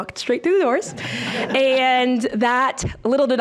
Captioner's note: board chuckling